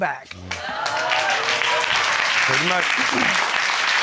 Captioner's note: audience cheers